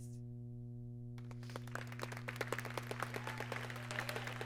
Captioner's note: applause